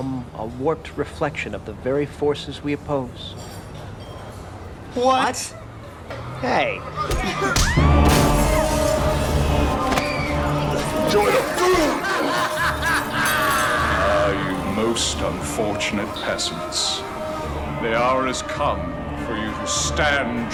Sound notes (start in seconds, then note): 7.3 woman screaming; 11.0 evil laughing